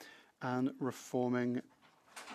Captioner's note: speaking French